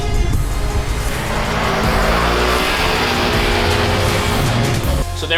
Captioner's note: engine roars